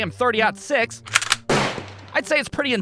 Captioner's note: click-clack! BOOM!